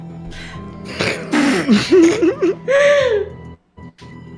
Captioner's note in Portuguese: segurando o riso